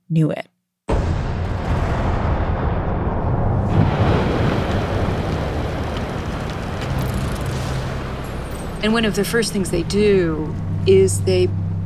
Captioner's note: soundbite of thunder crashing